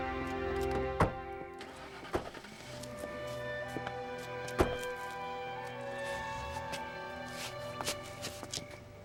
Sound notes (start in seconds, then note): 1.6 engine starting; 4.5 dramatic orchestral music continues